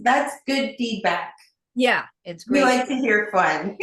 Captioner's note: giggles